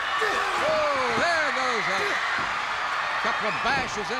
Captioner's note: crowd cheers